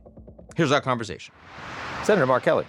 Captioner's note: screen whooshes